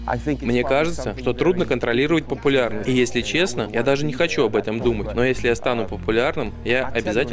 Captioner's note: laugh